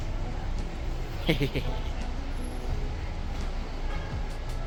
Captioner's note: happy laughs